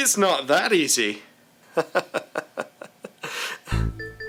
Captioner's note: laughter